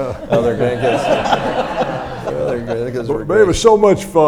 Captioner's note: audience laughs